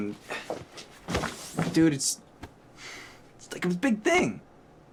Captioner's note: sighs